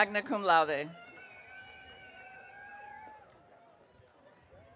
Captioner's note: audience cheering